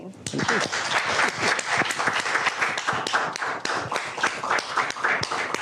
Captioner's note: applause